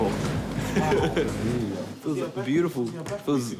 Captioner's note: laughing and chatting